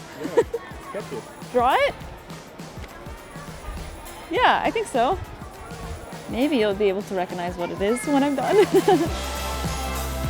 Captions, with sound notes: Draw it? Yeah, I think so. Maybe you'll be able to recognise what it is when I'm done *laughs*